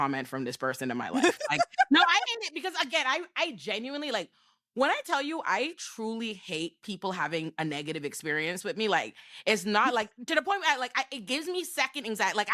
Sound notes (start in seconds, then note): 1.2 laughing